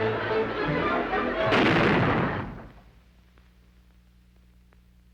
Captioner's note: canons booming